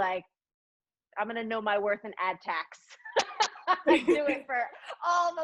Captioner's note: laughs